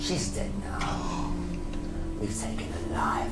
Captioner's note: gasps